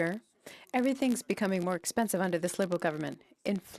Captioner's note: speaking French